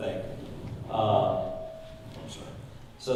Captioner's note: microphone squeaks